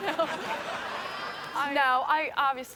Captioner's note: audience laughing